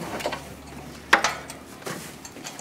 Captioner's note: clattering